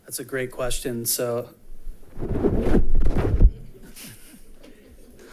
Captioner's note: mic scuffing